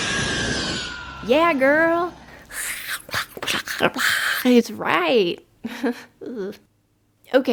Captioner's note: hissing and growling; hisses back